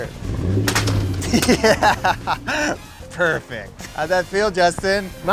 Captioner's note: laughing